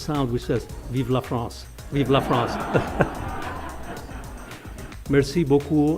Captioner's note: laughter